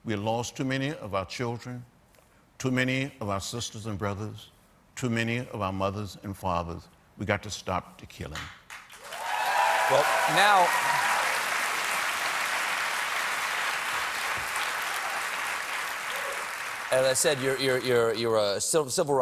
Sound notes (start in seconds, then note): 5.9 cheers and applause